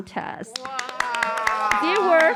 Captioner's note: applause